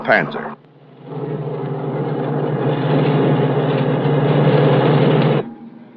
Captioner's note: bus engine